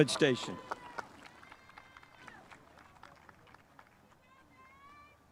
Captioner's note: spectators applauding